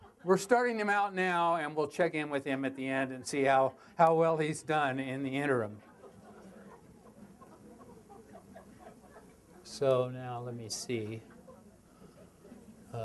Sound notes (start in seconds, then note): 5.5 audience laughter